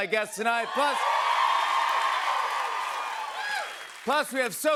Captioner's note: cheers and applause